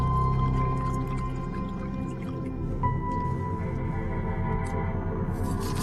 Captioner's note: liquid bubbling